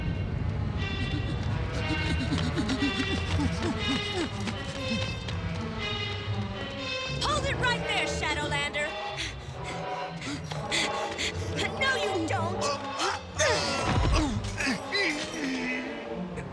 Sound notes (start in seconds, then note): 0.8 panting; 9.0 panting; 13.3 groans; 13.3 strains